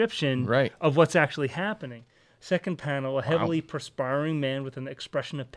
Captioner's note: none